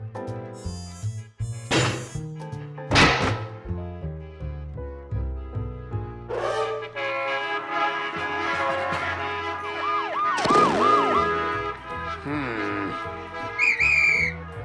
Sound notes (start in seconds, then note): 6.9 horns honk angrily; 7.8 sirens blare; 13.4 whistle blows furiously